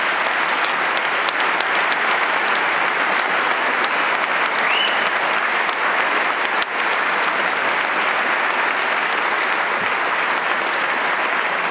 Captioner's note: applause